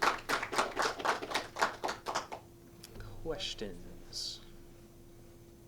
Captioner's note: clapping